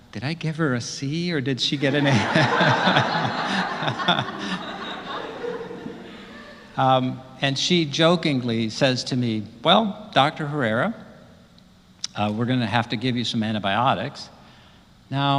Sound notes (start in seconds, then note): 1.8 laugh